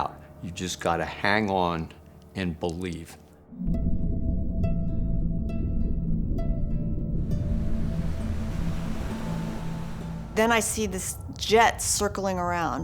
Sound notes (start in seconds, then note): 3.1 ominous music; 7.3 waves crashing